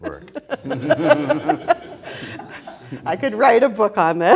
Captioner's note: all laughing